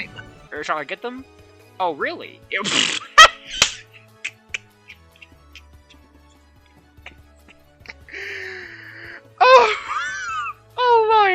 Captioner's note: cackling